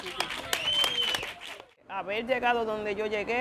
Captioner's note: Aplausos; applause